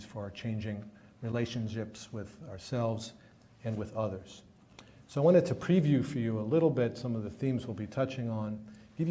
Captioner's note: none